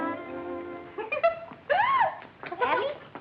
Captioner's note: laughter